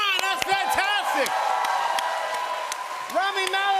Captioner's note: cheers and applause